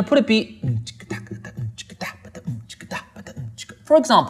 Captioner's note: hums beats